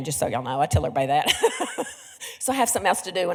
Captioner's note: laughs